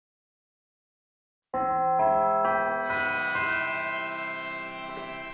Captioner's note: bells